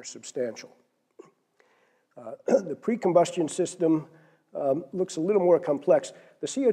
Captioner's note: cough